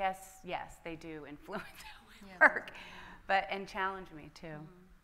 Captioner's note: laughs